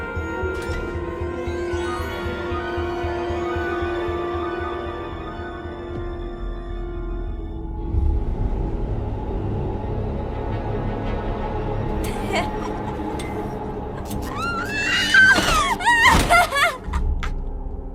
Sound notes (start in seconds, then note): 7.2 dark music plays; 12.1 cackles wildly